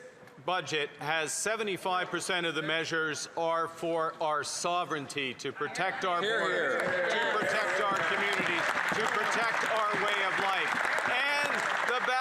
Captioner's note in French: voix de l'interprète